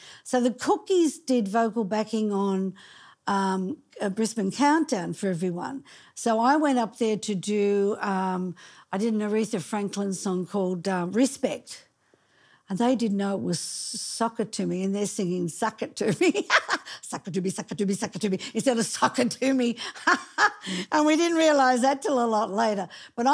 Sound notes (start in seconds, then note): 16.4 laughing; 20.3 laughing